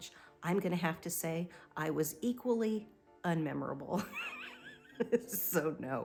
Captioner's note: laughs